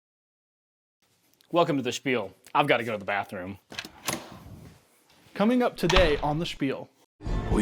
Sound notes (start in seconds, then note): 5.8 lock clinks; 5.8 door thuds